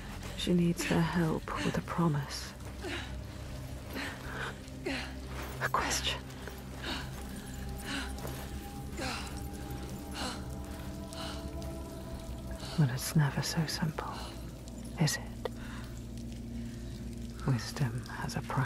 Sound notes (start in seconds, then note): 2.9 senua grunting; 10.2 senua grunting and panting